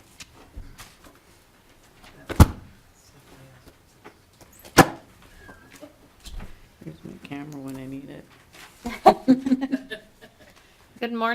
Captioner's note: laughter